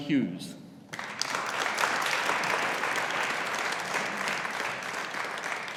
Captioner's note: audience applauding